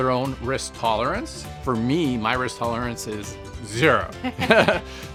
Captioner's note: Jillian laughs; chuckles